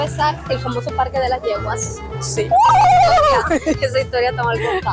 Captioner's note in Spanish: Risas